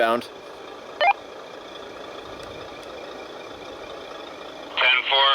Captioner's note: radio beep